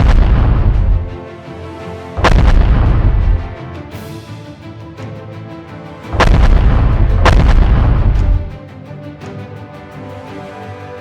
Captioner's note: gun firing